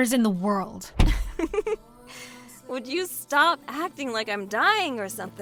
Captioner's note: laughs